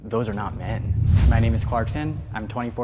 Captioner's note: whoosh air